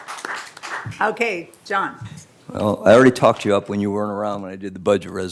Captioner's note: applause